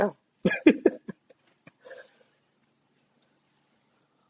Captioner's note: background laughter